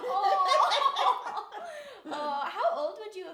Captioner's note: laughing